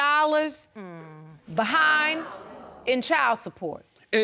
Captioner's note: audience gasps